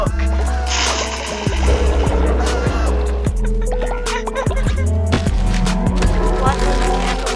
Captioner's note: laughing